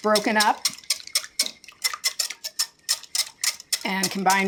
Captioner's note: whisking